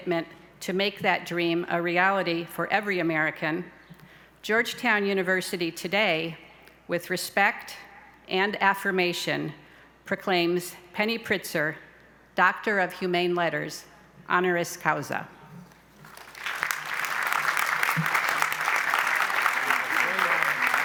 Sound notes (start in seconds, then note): 16.0 applause